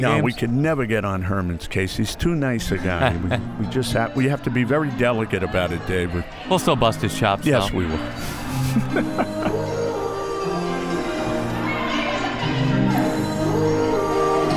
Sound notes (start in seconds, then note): 5.9 pop music playing; 9.4 laughs